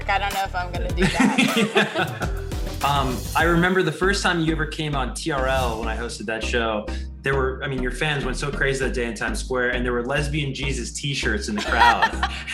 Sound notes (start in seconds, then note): 1.0 both laugh loudly